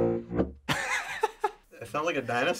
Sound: laughs

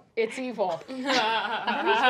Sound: laughing

